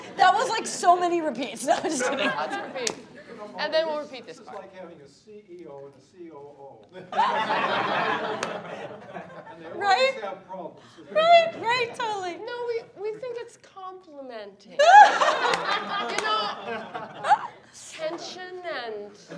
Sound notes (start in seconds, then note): 5.2 speaking faintly; 7.1 laughing; 14.8 laughing